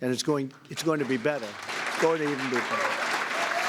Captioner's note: applause